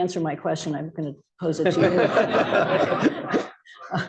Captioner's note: laughter